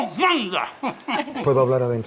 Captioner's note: priest laught